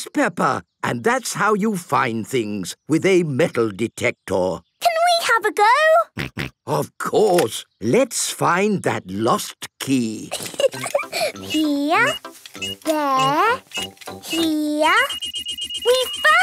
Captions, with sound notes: - Yes, Peppa. And that's how you find things with a metal detector. - Can we have a go? (snorting) - Of course. Let's find that lost key. (giggling) - Here... there... here... (beeping)